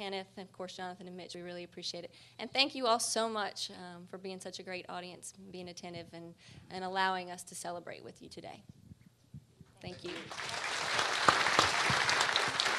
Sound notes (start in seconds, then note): 9.9 applause